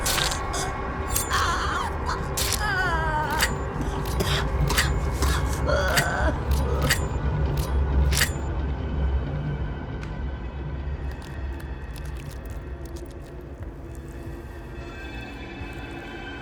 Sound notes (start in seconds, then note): 0.0 Sarah screaming; 0.0 shears continue rasping; 3.8 Sarah coughing; 4.8 shear continue rasping; 10.1 shears thudding; 11.1 flesh squelching; 11.4 eerie music